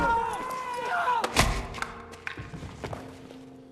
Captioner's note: hitting; groaning